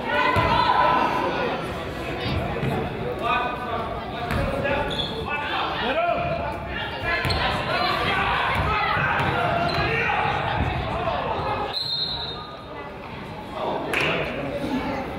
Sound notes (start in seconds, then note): 6.8 crowd yells; 11.7 whistle blows